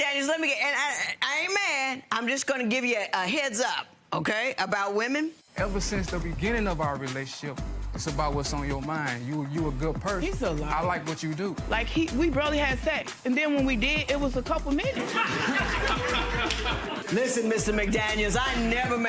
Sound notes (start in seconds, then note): 14.9 audience laughter